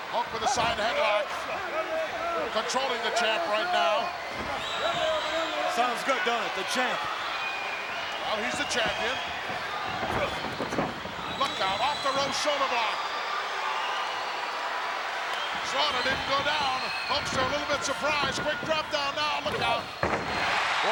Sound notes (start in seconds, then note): 13.5 crowd cheering